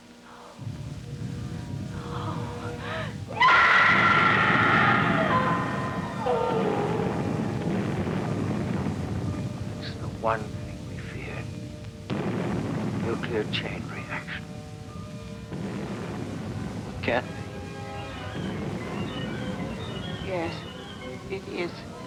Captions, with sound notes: No, no. No! (explosions booming) - It's the one thing we feared, nuclear chain reaction. - It can't be. - Yes, it is.